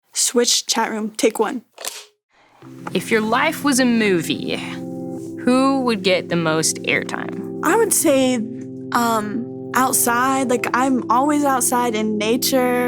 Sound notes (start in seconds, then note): 1.6 clap